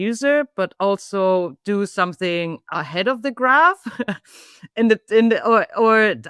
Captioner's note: laughs